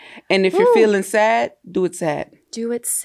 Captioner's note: sighs